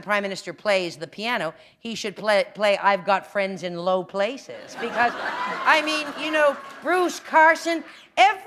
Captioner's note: laughter